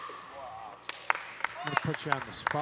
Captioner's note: audience clapping